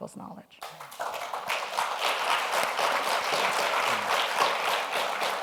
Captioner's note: audience applauds